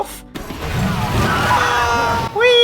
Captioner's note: Nettles screams